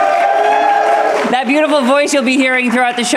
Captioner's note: audience cheering and applauding